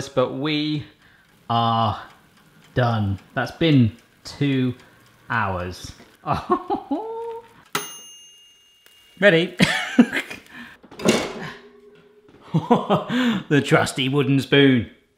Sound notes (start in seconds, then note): 6.2 laughing; 7.8 timer dings; 10.0 laughing